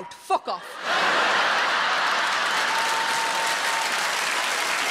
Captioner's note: audience laughing